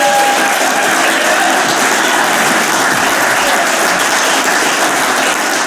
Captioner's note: audience cheers and applauds